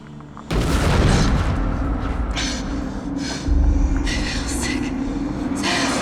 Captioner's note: Paige panting